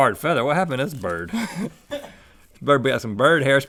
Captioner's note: Link and crew laugh